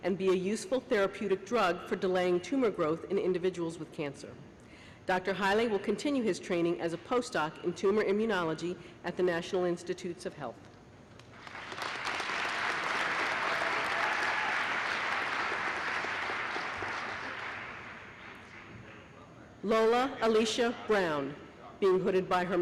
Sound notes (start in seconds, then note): 17.2 applause